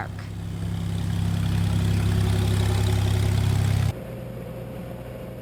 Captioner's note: plane passing